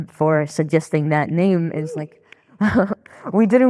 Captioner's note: laughing